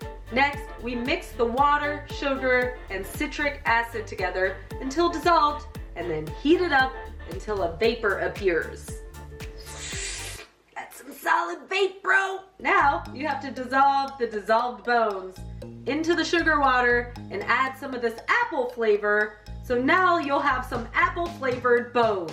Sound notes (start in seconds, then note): 9.6 vape inhale sound